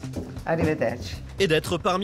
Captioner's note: in Italian